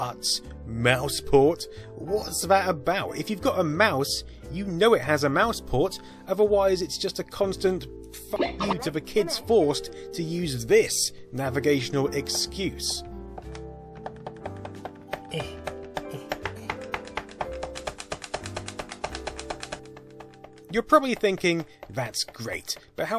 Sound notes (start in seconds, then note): 15.2 slow mouse grunting